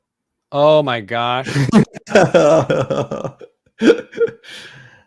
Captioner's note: chuckling